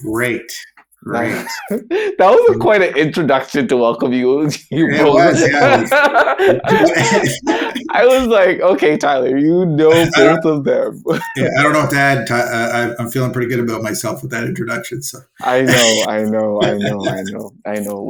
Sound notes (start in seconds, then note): 1.2 chuckling; 4.4 laughing; 6.8 chuckling